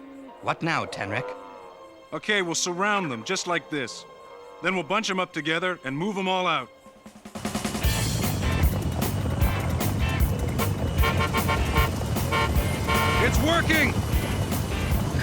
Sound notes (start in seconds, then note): 10.0 horn honking